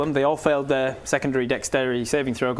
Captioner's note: none